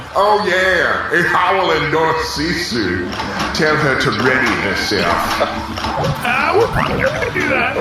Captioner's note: laughing